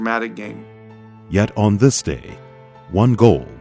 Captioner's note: voiceover